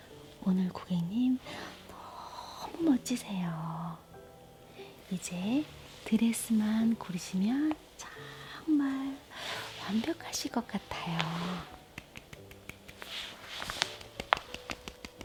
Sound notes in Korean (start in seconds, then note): 12.0 짝짝짝짝